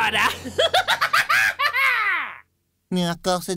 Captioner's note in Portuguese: Mais risada gélida e maléfica